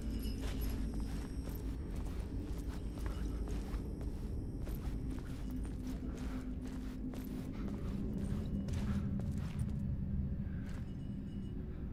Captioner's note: footsteps